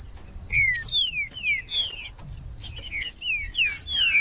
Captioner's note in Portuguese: trinca ferro cantando